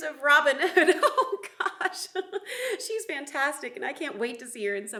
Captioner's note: giggling